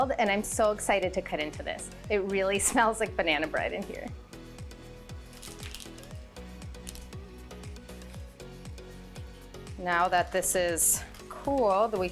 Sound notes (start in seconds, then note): 5.3 parchment paper crinkling; 7.1 upbeat happy music